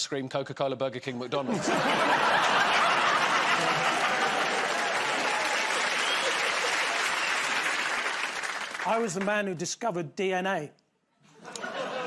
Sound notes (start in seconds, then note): 1.4 laughter; 4.9 cheers and applause